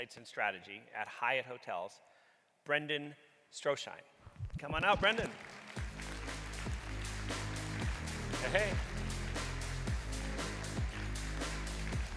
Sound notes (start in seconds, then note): 5.8 audience clapping; 6.6 upbeat music; 9.5 upbeat music